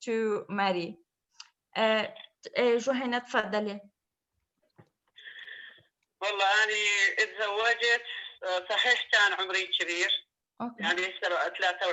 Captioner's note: speaking in another language/ Interpretation